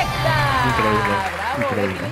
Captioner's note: applause